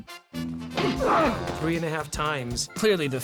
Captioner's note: man groans